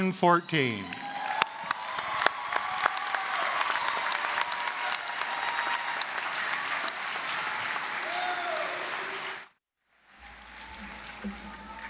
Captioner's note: applause, cheering